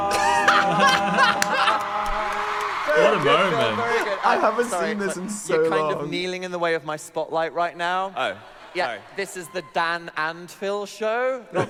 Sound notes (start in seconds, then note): 0.0 both laughing; 1.8 audience cheering